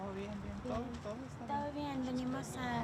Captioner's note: speaking in Spanish